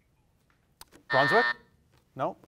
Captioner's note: alarm buzzes